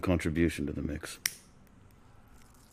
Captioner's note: lighter clicks